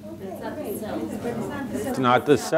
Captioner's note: audience members speaking